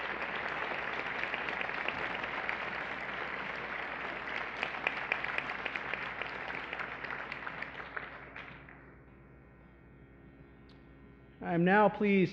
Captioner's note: applause